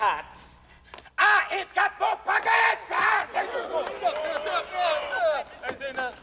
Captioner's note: noises of protest